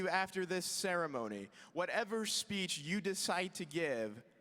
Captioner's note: none